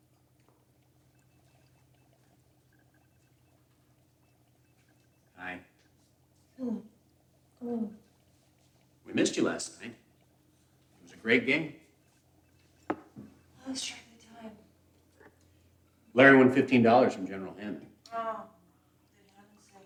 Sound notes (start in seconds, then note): 6.6 Anna grunts